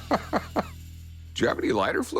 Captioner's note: laughter